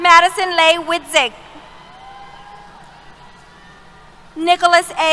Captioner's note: cheers